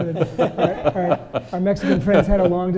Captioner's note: laughing